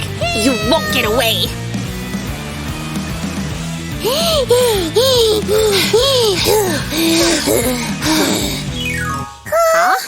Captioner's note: heavy breathing